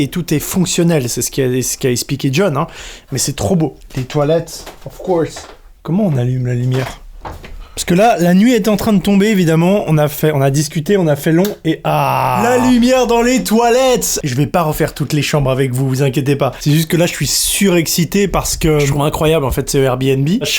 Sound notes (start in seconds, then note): 11.8 exclamation